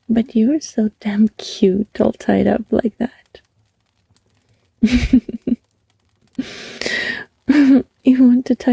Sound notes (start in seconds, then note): 4.8 speaker laughs